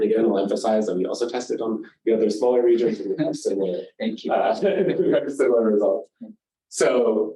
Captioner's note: laugh; laughs